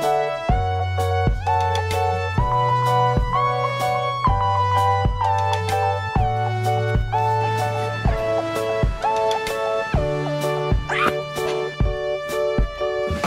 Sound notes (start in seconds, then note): 10.9 screams